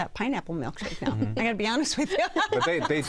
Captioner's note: laughing